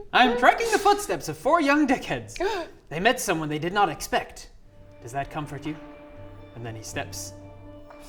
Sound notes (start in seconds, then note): 2.4 gasp